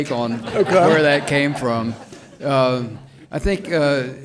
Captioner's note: audience laughs